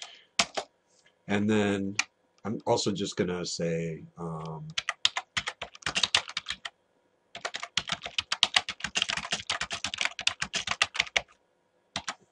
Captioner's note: typing